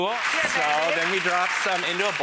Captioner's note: applause